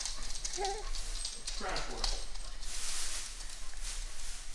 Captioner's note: baby coos